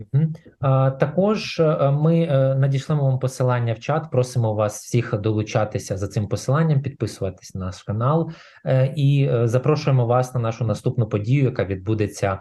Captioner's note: foreign Language